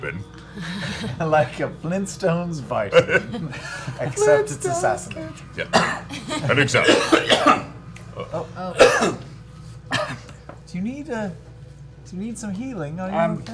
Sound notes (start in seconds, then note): 7.1 coughs